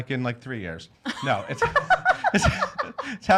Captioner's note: laughing